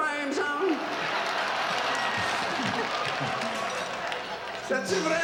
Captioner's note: audience laughs